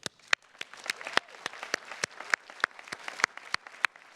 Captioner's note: attendees clapping